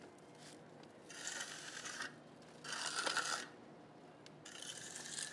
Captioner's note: trowel rasping